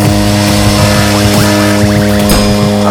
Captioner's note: alarm; clock bell strike